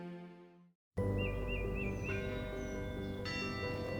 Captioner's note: birds chirping; bell ringing